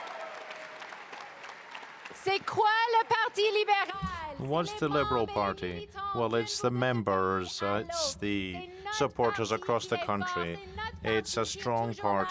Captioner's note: cheering and applause